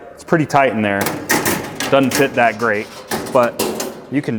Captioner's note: metal clanking